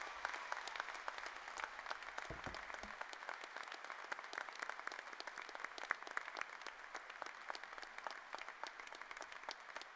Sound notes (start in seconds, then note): 2.2 cheers and applause